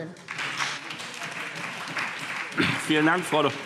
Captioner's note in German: Beifall SPD